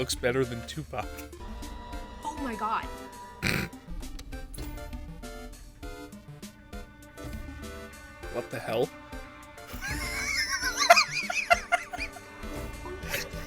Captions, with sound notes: "Oh my God!" *snort* What the hell? *wheezing hysterical laughter*